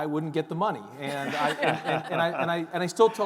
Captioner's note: all giggling